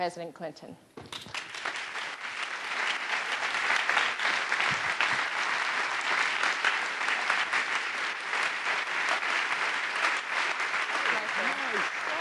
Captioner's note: applause